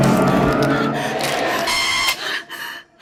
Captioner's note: ASIAN WOMAN’s bones crack as WOMAN’s breathing becomes increasingly panicky; viewfinder’s lever clicks